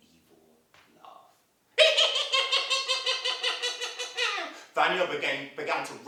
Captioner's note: sound of evil laughing